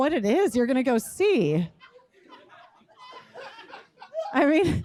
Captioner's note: laughter